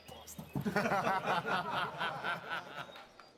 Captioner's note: all laughing